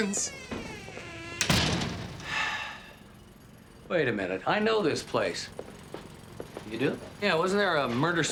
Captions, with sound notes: (Nash sighs) - Wait a minute. I know this place. - You do? - Yeah.